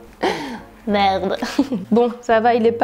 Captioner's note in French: rires